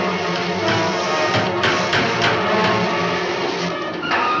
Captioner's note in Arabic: صوت المطرقة